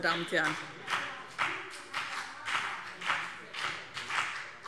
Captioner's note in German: Beifall BÜNDNIS 90/DIE GRÜNEN und CDU